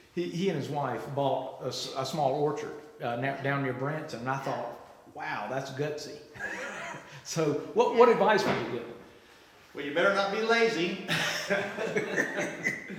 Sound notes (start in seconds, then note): 6.4 laughs; 11.1 laughs